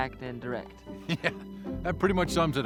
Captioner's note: laughs